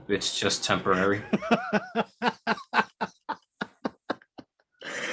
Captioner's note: boss laughing